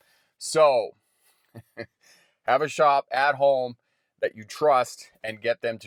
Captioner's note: chuckles